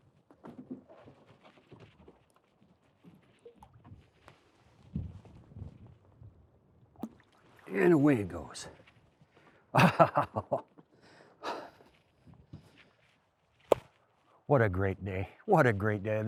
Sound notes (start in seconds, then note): 9.8 laughs